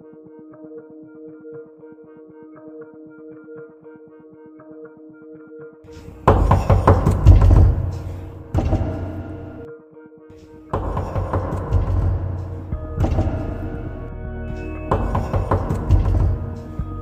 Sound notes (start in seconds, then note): 6.0 door banging; 13.0 door banging continues